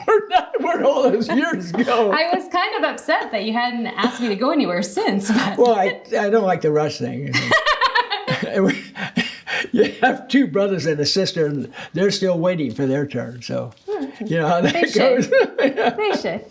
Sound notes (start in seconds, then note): 7.4 laughing; 14.2 laughing